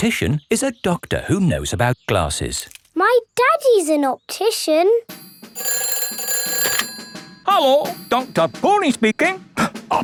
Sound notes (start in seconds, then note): 5.2 ringing